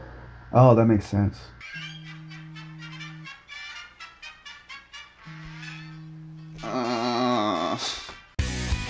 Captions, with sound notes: Oh, that makes sense! (Alarm clock)